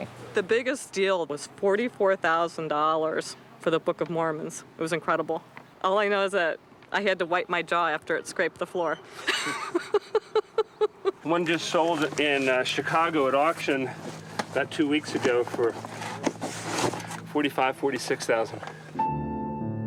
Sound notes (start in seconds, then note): 9.1 laughs